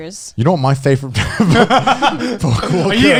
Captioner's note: laughs